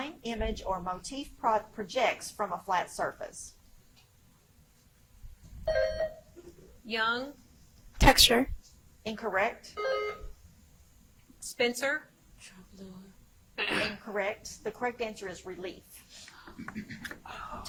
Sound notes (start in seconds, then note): 5.7 buzzer chimes; 9.8 buzzer chimes; 13.6 contestant clears throat; 16.5 contestant clearing throat; 16.5 whispers